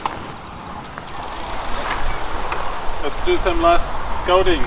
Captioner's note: wheels rattling; air whooshing